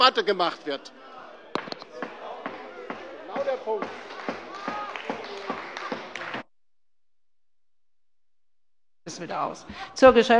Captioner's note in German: Beifall bei der LINKEN und bei Abgeordneten der SPD - Zurufe von der CDU